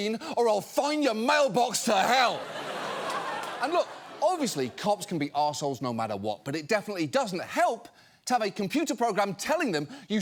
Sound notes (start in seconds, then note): 2.2 studio audience laughs